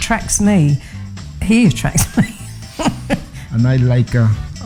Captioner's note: laughs